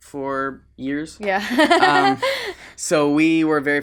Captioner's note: laughs